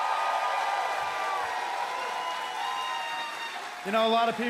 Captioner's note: crowd cheering